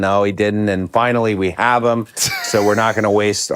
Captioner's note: Finn laughs